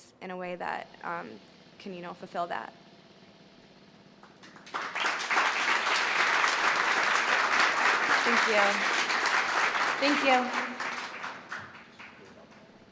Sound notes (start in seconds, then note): 4.2 applause